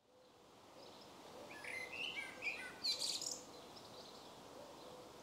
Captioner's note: birdsong